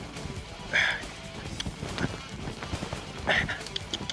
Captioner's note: grunts